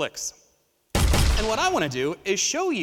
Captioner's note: gun firing